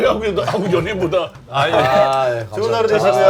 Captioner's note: heehee